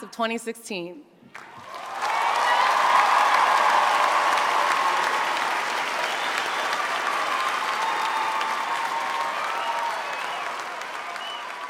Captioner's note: applause